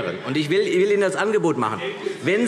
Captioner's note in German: Widerspruch Freie Demokraten